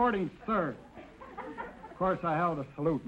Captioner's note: audience chuckling